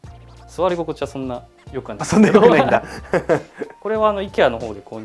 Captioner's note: laughs